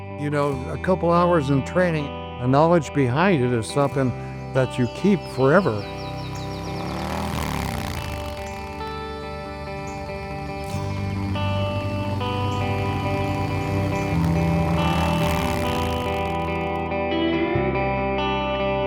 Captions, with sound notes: You know, a couple hours in training and knowledge behind it is something that you keep forever. [Motorcycle engine fades into distance]